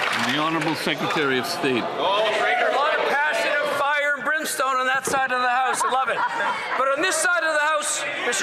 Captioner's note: some Applause